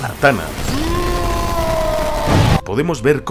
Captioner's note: screams